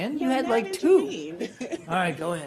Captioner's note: laughter